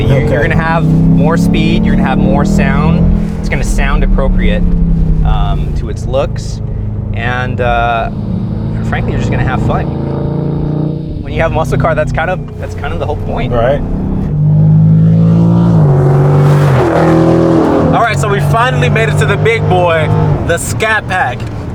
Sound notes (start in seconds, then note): 14.4 revving